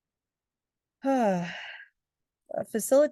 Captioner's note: sighing